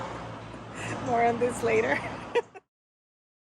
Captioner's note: laughs